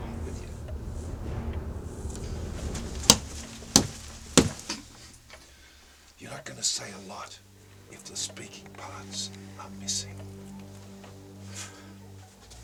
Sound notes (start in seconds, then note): 3.2 thudding